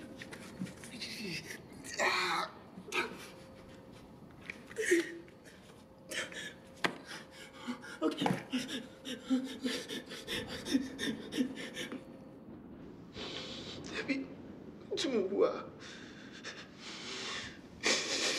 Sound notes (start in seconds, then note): 4.7 sobs in pain; 8.5 breathing heavily; 13.6 in Twi